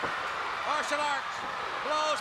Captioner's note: crowd cheering